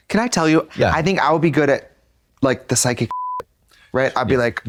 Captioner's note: beep